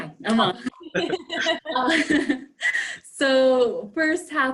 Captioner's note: laughter